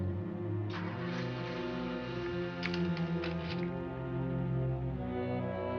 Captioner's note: car engines rumbling